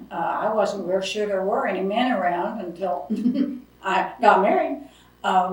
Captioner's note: laughs